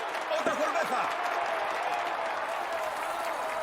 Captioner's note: tepuk tangan; berbicara bahasa spanyol